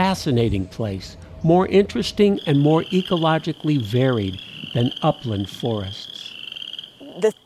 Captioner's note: frogs singing